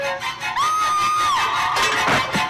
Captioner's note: scream